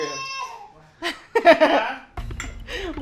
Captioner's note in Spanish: risas